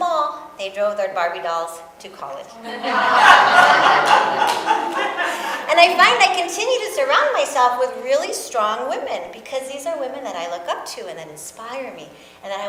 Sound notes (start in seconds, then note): 2.6 audience laughs